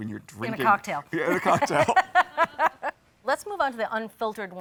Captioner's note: both laughing